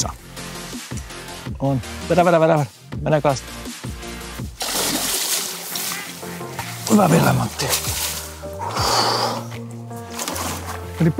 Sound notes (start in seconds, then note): 8.6 sigh of relief